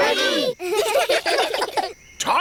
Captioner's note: children giggle